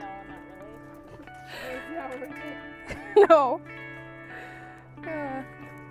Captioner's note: laughing